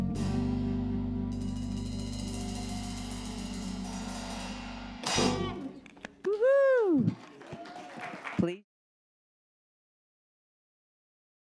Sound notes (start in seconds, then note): 1.3 drum roll music; 5.6 audience applauds